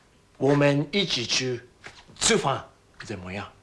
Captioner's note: speaking Chinese